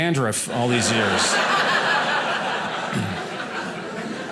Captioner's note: audience laughing